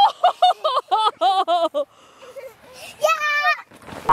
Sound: laughing

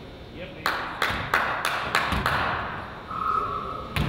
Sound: man claps

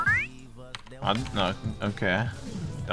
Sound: stutters

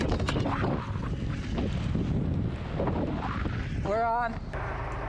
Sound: wind blowing

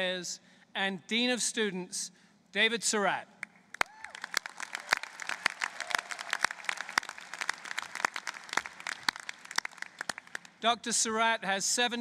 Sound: applause

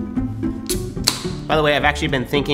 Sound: can tab clicking

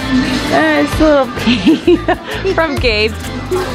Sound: laughing

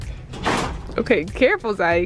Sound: basket bangs into shelf

